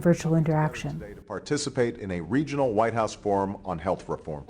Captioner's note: voiceover